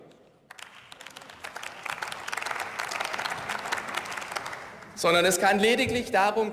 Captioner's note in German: Beifall